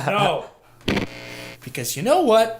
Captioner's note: cord unplugging sound